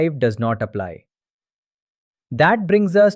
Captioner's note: pause